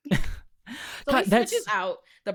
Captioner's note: laughing